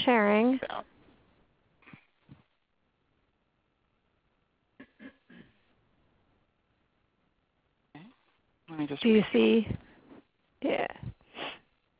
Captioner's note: silence